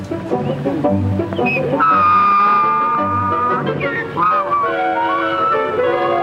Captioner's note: donkey braying